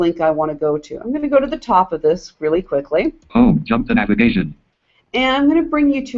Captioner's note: JAWS speaking